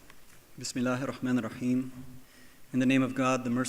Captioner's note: speaking in foreign language